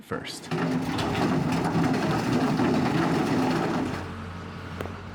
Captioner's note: rocks falling